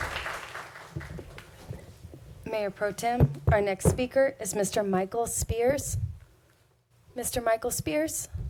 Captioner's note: applause